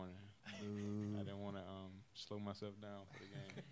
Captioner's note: laughs